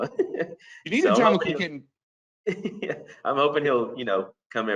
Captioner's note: overlapping chatter